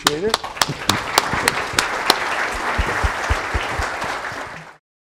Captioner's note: audience applauds